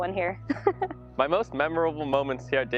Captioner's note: chuckles